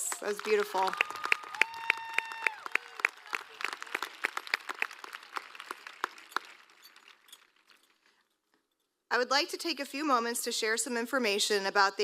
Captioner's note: applause